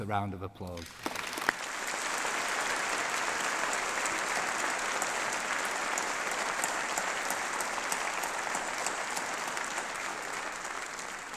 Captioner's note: applause